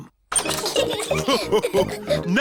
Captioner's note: all laugh